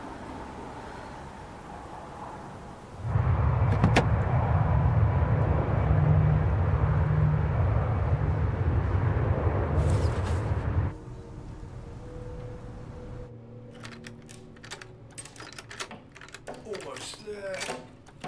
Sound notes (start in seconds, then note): 3.2 air plane engine whirring; 13.7 door opens